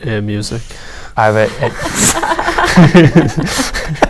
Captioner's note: Jake gives up and starts laughing